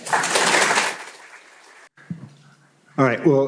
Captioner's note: applause